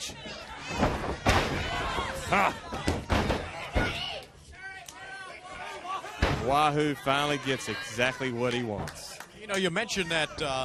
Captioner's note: crowd chatter